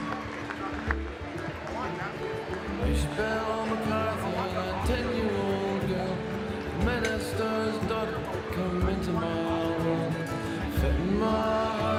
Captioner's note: cheering and Applause